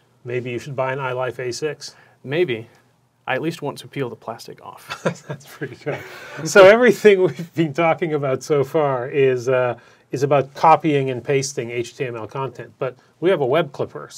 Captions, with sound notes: - Maybe you should buy an iLife A6. - Maybe. I at least want to peel the plastic off. (Laughs) - That's pretty good. So everything we've been talking about so far is about copying and pasting HTML content, but we have a Web Clipper.